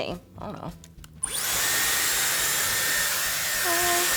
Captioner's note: dryer whirs